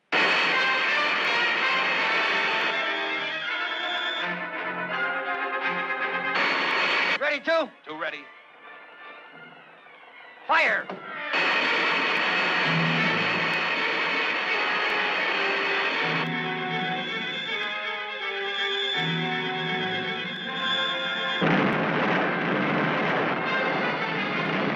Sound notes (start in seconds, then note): 0.3 lasers blasting; 0.3 suspenseful orchestral music; 11.3 lasers blasting; 11.3 suspenseful orchestral music; 21.7 explosion booming